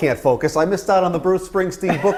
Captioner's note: laughter